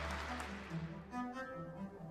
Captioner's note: cheers and applause